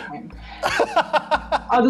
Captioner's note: laughs